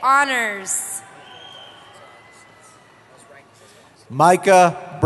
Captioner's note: cheering